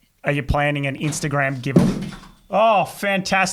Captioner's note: soft thud